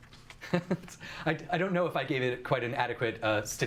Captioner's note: chuckles